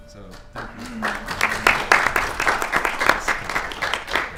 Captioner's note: applause